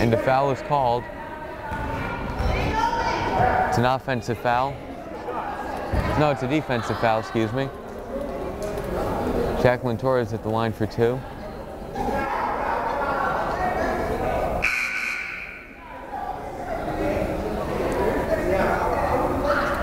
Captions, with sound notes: And a foul is called. It's an offensive foul. No, it's a defensive foul, excuse me. Jaclyn Torres at the line for two. (buzzer blares) (crowd chattering)